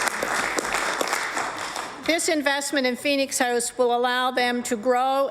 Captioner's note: applause; applause